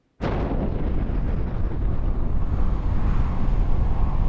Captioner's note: bomb exploding